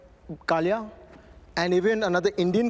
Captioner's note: speaking Hindi